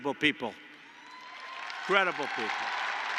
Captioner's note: applause